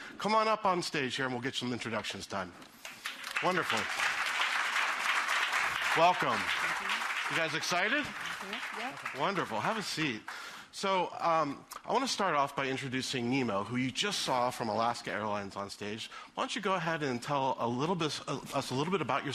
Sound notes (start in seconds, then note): 2.7 applause